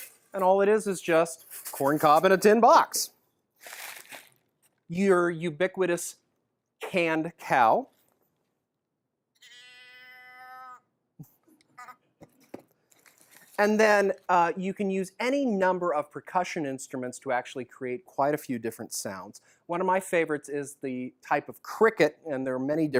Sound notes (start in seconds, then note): 9.4 cow moo sound from can